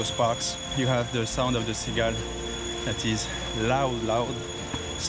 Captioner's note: cicada